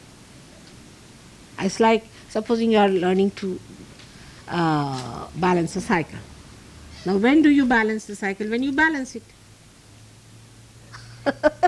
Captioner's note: laughs